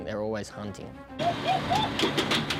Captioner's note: yelling; boat motor